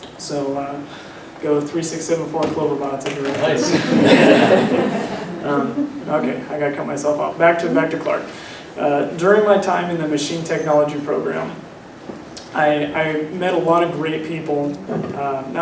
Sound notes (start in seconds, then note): 3.5 laughter